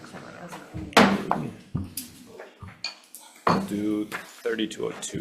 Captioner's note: gavel bangs